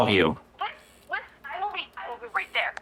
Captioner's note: on phone